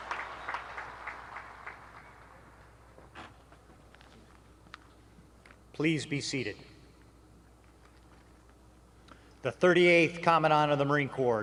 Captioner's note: cheering; applause